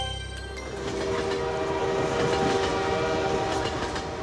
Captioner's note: train horn blaring